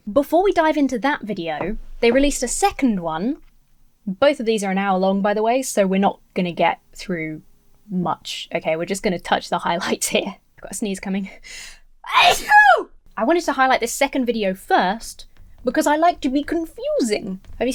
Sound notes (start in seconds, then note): 12.0 sneezes